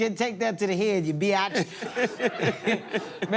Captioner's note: laughs